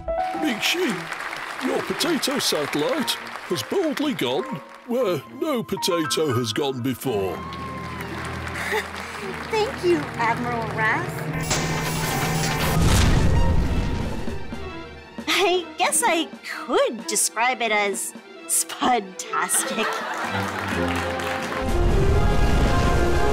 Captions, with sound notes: Miikshi, your potato satellite has boldly gone where no potato has gone before. [nervous laugh] Thank you, Admiral Raffe. I guess I could describe it as spud-tastic.